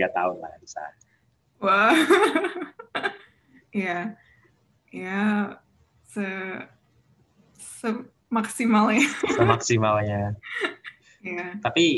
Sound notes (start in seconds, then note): 0.0 chuckles; 8.9 chuckles